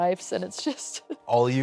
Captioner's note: chuckles